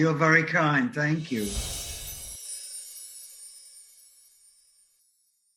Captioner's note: chimes jingling